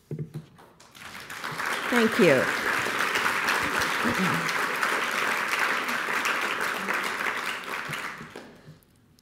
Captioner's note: applause